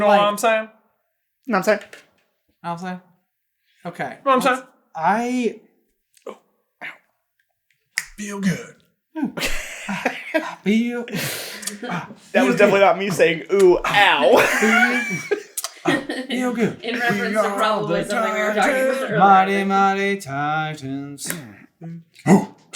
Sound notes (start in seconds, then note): 7.9 snaps; 9.3 laughter